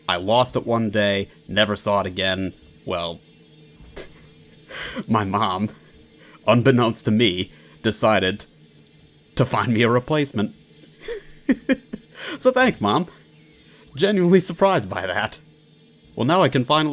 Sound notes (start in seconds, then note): 3.9 snickering; 11.0 giddy giggling